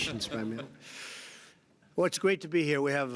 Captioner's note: laughter